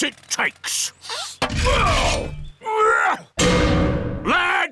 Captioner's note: grunting